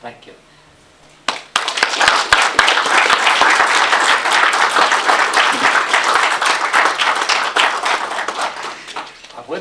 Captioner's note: applause